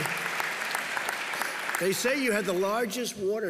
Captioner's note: laughter and applause